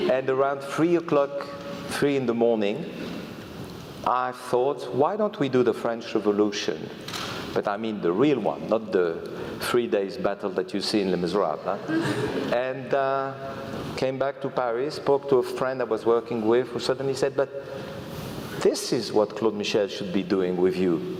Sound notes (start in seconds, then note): 11.8 laugh